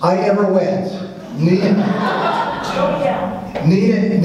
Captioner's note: audience laughs